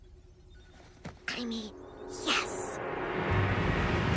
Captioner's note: whispering